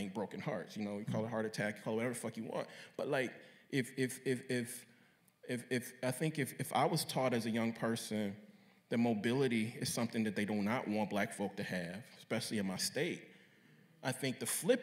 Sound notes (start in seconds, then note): none